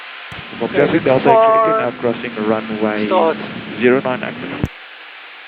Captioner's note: radio